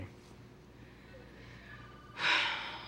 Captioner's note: sighs